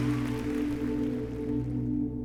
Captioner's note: applause